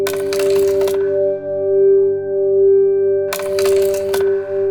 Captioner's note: slides clacking